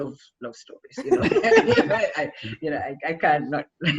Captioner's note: laughs